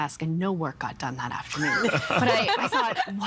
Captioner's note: all laughing